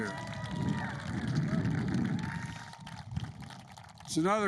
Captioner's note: applause